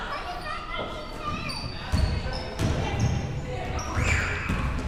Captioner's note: none